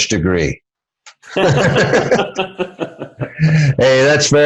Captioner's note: both laugh